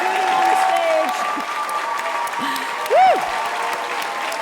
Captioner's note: crowd cheering